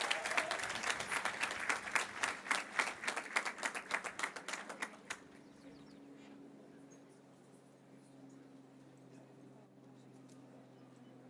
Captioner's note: cheers and applause